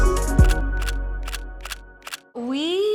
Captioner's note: camera clicks